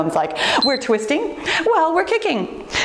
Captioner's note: timer beeps